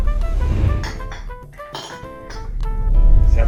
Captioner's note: sound of tinkling glass